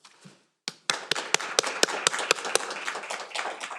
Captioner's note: all applauding